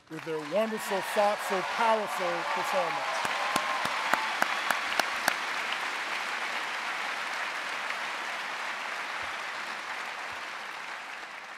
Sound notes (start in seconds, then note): 3.4 audience cheering and applauding